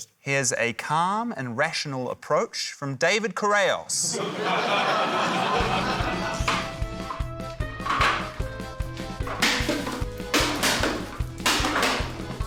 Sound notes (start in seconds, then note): 4.0 laughter; 6.3 frantic polka music; 9.2 cans clatter